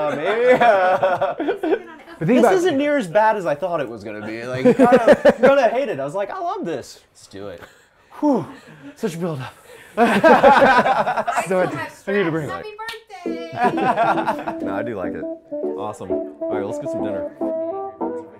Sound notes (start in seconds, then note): 0.0 laughing; 10.0 laughing; 18.1 upbeat music playing